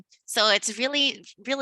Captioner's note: none